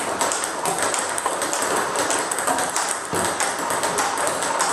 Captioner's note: ball ping pong hitting continues